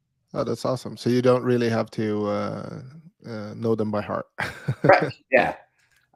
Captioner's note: laughing